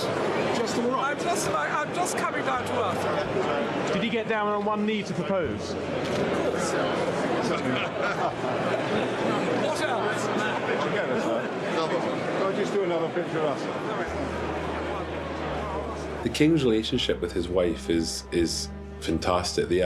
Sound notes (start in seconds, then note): 7.1 crowd chatter